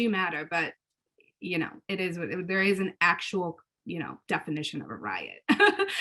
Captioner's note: laughs